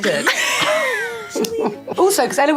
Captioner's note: all laughing